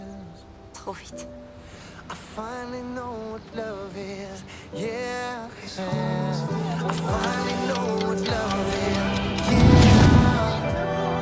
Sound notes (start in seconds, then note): 6.9 clock ticking; 8.4 whooshing